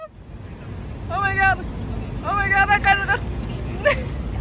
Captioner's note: giggling